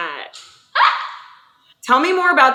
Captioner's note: laughs